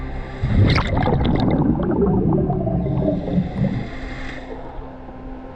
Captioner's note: underwater sounds continue